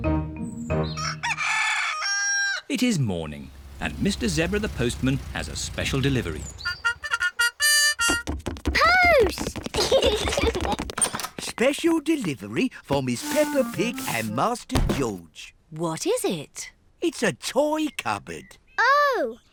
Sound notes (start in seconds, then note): 7.0 both giggle